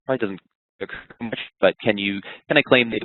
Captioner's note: voice muffled